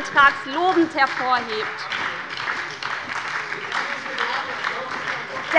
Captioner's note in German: Beifall bei der SPD - Zurufe von der CDU